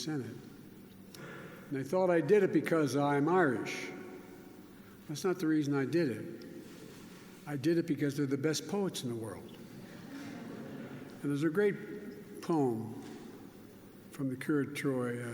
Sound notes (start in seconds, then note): 9.8 laughter